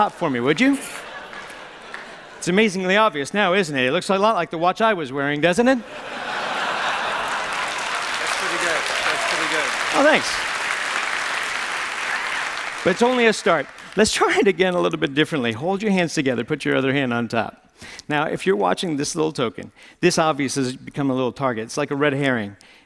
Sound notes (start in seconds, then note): 5.8 laughter; 6.6 applause; 10.3 applause